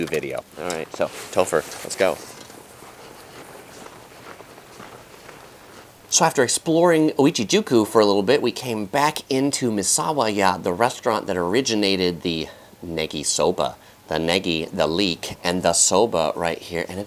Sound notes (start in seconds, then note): none